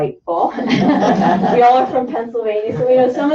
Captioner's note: laughter